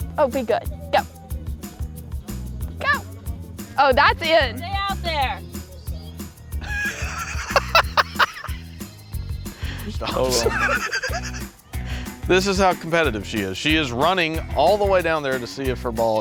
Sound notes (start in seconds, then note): 6.9 laughter